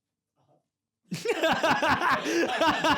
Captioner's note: laughs